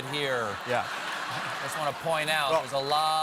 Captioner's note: laughter